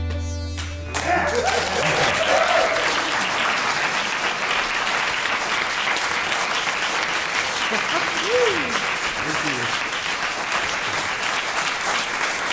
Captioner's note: applause